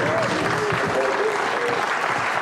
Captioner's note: all applauding